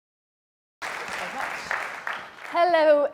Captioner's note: audience applauding